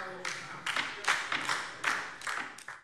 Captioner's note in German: Beifall DIE LINKE